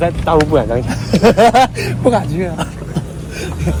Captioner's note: laugh